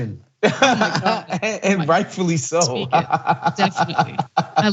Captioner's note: laugh